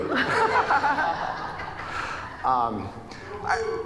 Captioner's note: audience laughing